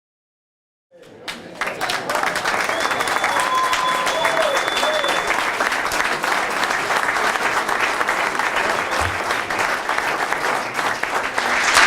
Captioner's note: applause